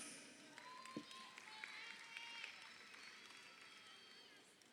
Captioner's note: crowd cheering